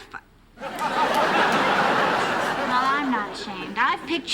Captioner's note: laughter